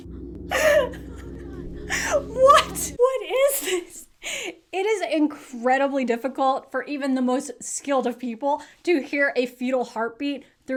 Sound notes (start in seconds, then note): 2.1 laughs